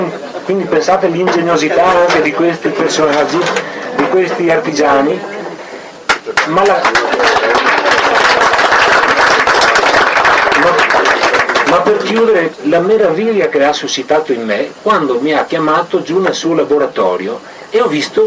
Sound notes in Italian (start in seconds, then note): 9.5 Applauso